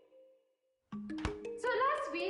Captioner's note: door closes